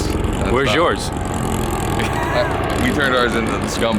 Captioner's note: car engine roaring